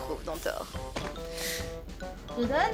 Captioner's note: chair/desk noise